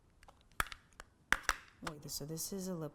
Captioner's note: snaps lid closed